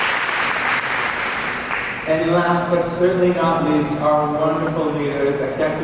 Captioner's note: applause